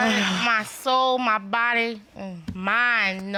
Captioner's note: sighs